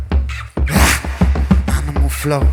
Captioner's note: hrragh